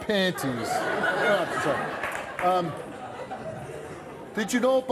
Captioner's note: audience laughing